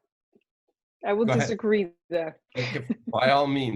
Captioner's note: laughs